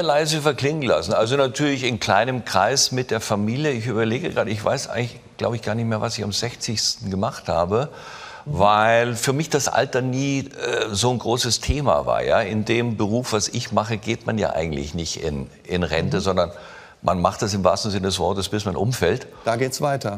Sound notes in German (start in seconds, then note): none